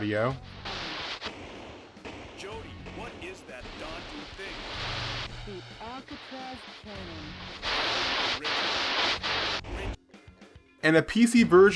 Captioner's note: static sounds